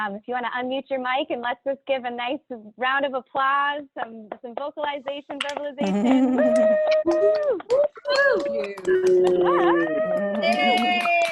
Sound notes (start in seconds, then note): 6.4 people applauding and cheering